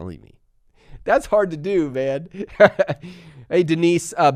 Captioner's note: laughs